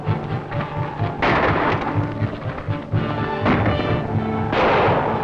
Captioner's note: gunshots